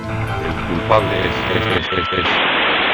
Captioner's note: radio